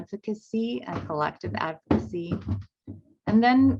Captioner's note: footsteps thumping